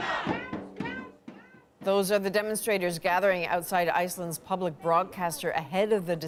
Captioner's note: chanting